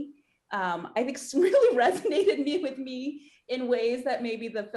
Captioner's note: laughing